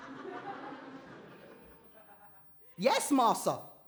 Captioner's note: audience laughter